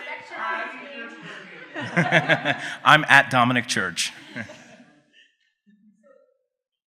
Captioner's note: laughs